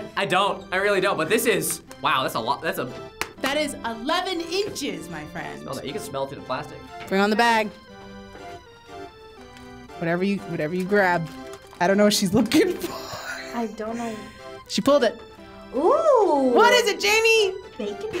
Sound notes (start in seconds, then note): 3.1 slapping; 12.8 wheezes